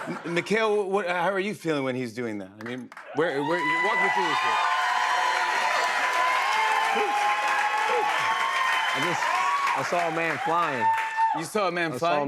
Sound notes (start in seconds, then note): 5.2 cheers and applause